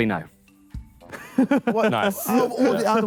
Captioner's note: laughs